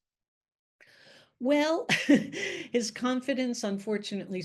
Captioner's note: chuckles